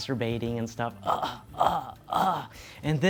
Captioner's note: moans